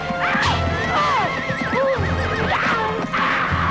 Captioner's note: horse neighs; mother shouting